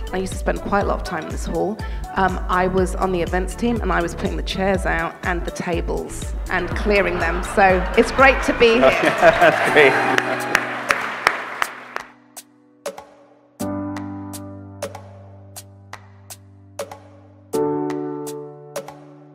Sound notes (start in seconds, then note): 9.9 applause; 11.2 upbeat music